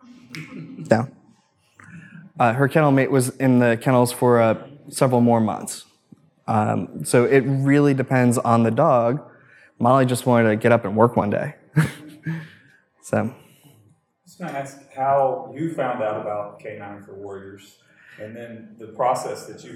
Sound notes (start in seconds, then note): 0.2 audience laughs; 11.8 laughs